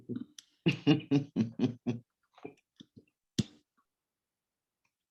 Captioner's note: chuckling